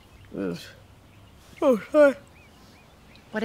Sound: yawns

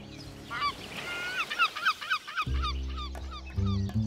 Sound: speaking in foreign language; seagulls cawing

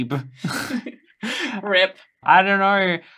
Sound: laughing

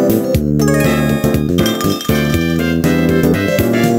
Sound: tinkle tinkle

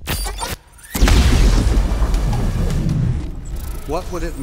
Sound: explosion

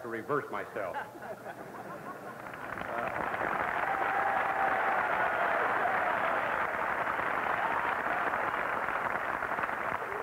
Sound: laughing and applause

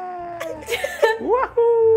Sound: laughing

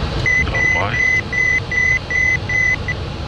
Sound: autopilot shutdown signal

